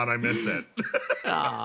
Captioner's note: laugh